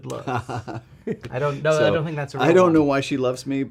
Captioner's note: laughing